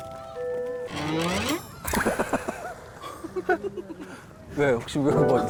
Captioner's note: awkward sound effect